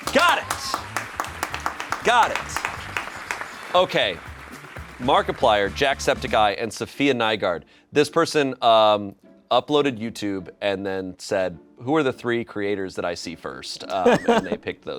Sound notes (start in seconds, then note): 2.4 crew applauds